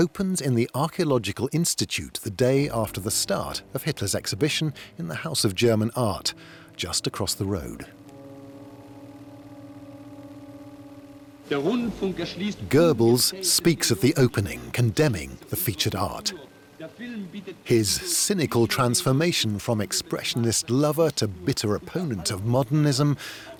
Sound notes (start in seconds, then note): 11.6 speaking German